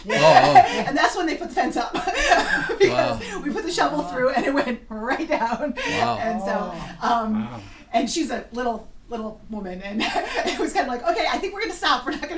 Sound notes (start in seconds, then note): 6.1 voiceover